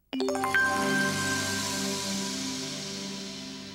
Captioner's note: chiming